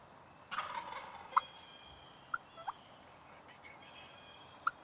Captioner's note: turkey gobbles